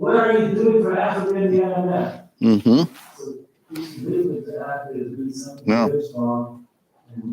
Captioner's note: faintly speaking